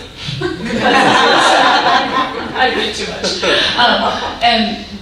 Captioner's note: audience laughing